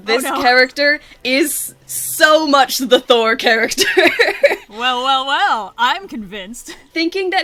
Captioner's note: laughs